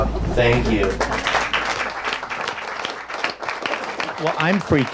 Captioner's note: audience applauds